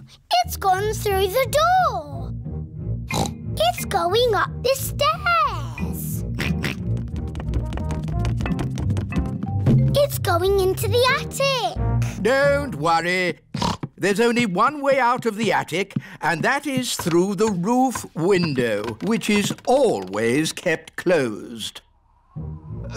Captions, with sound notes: Oh! It's gone through the door! (SNORTS) It's going up the stairs! (GEORGE OINKS) It's going into the attic! Don't worry! (SNORTS) There's only one way out of the attic, and that is through the roof window, which is always kept closed...